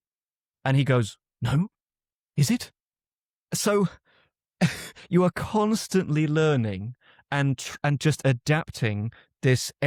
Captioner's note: chuckles